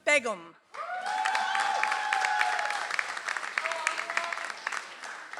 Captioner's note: audience applauds